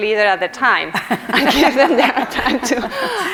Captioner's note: all laugh